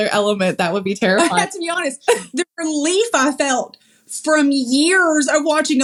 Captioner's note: laugh